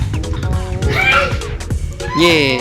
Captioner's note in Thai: เสียงกรีดร้อง